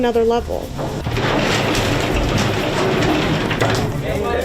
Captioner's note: gate clattering open